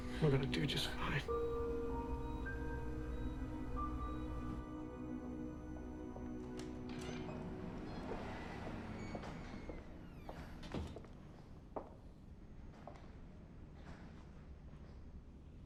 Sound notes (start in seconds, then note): 0.0 gentle tense music; 2.8 gentle tense music; 6.8 door latch clicks; 9.9 shoes clacking